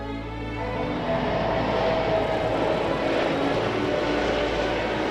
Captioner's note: jet engine roaring